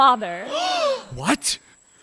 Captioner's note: surprised gasps